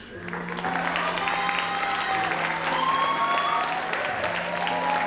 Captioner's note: audience applauds